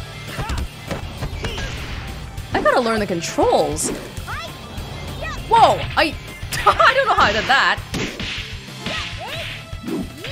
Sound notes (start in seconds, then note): 6.5 laughs